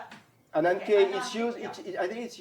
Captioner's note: non-english